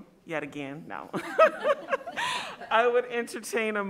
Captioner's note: laughing